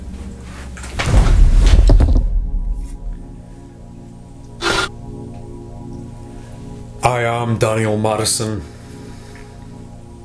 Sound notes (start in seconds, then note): 1.6 clatter; 4.6 static